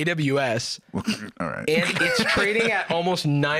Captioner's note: laughs